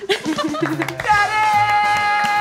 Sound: clapping

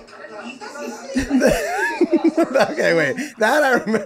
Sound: Rob laughing

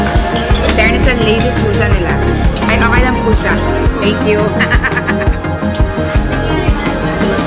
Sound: laughs

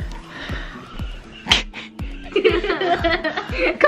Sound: laughing

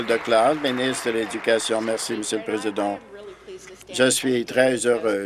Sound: applause

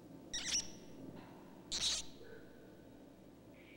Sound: rats squealing

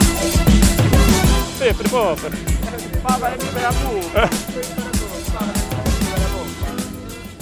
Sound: gibberish Italian

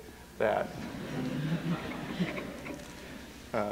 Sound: laughter

